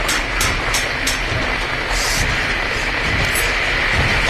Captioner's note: static, pounding builds still louder